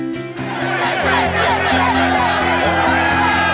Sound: crowd chanting: “ ”; crowd cheering

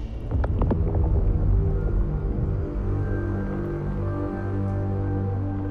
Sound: ethereal moaning fades away

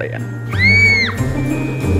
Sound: child screams

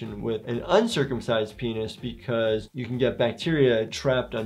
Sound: none

